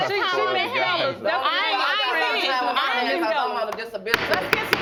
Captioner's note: all arguing; gavel bangs